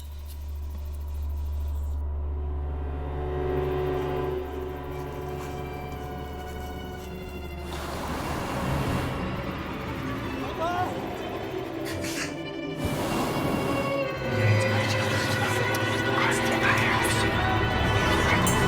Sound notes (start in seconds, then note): 0.3 ominous music; 14.6 ghostly whispering